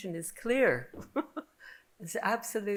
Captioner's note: laughing